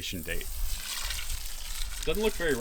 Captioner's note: water running through hose